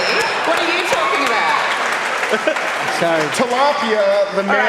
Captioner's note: laughter and Applause